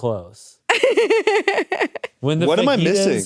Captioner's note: laughs